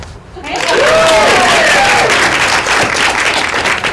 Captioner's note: applause